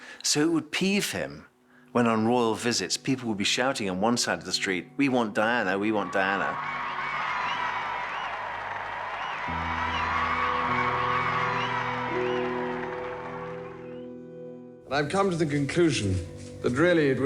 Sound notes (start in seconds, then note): 5.9 crowd cheering; 10.6 gentle music